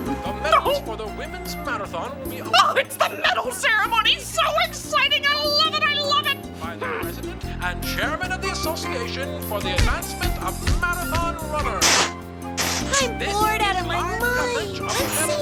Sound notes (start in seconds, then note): 6.9 Owlie grunts; 9.6 upbeat music